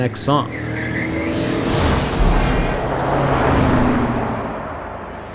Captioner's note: car engine revving